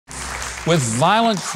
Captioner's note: audience applauding